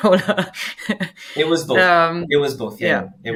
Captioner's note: laughing